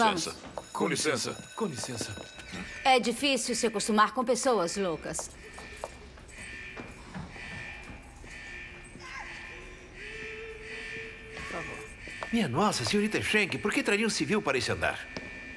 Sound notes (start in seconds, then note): 7.9 distant moaning, yelling